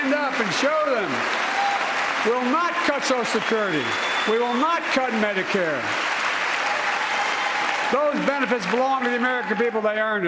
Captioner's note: cheers and applause